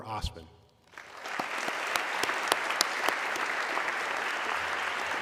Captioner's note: audience clapping